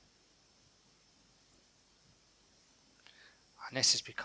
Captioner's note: silence